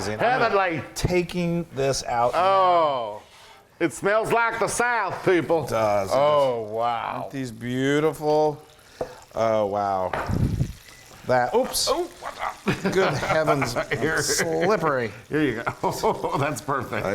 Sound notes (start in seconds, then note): 15.9 laugh